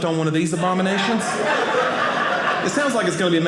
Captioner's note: audience laughing